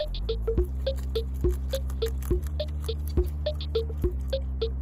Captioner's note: rabbits munching